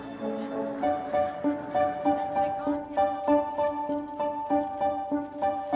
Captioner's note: news reporter faintly speaking